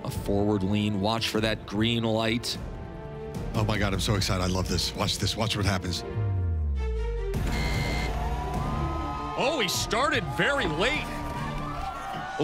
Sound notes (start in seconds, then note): 7.4 buzzer